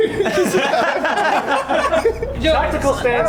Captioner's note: laughter